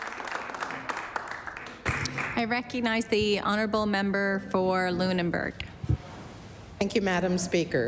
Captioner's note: applause